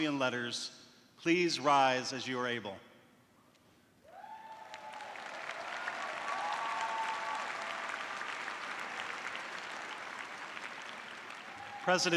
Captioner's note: cheers and applause